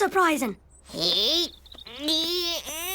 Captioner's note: heaving